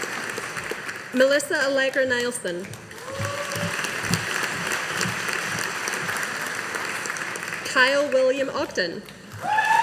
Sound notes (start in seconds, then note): 2.6 audience applauding